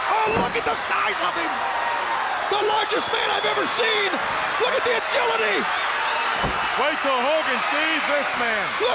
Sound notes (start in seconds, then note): 6.3 crowd screaming; 6.3 body slamming